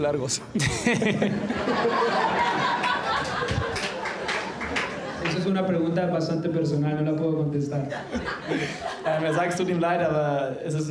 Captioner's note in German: lacht